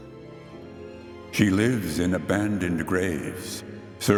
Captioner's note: disembodied voice